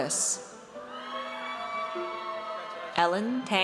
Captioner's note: audience cheers